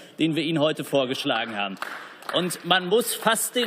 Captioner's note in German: Beifall